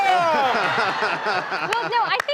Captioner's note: laughing